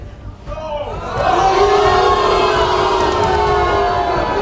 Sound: audience shouting; dramatic music

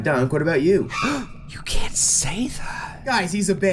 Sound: gasp

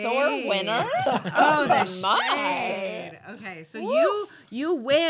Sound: laughing

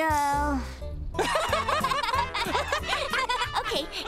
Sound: laughing

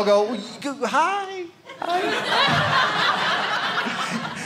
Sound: audience laughing

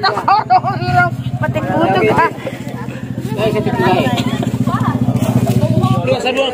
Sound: laughs

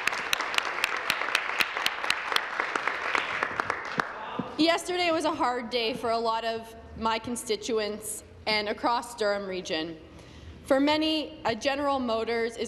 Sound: applause

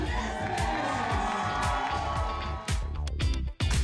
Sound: applause

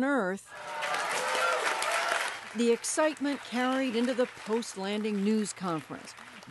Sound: cheering and applause

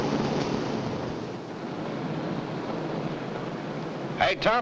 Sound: machinery rumbling nearby

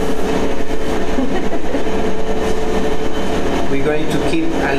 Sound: giggles

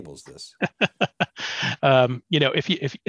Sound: laughs

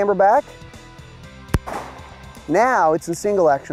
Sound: gun fires

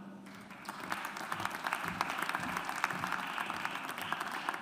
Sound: audience applauds

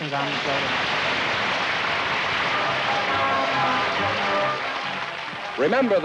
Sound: applause

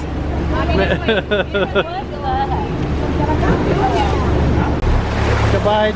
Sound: chuckles

